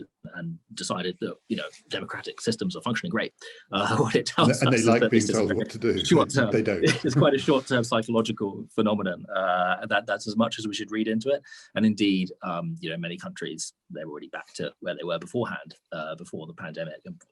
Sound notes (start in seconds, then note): 3.4 chuckles